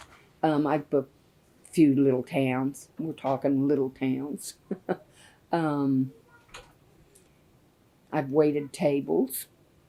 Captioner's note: laughs